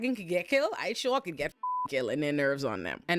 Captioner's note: beep